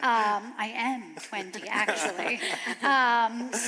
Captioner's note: chuckles